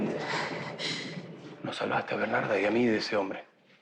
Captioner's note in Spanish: Respiración agitada